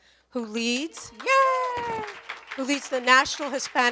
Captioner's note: applause and cheers